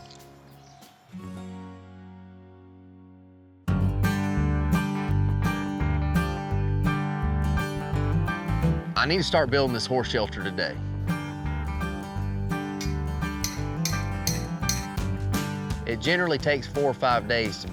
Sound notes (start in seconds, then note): 12.8 hammering